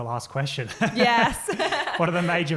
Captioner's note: laughing